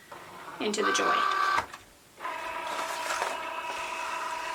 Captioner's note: machine whirring